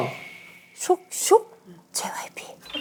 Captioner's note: swoosh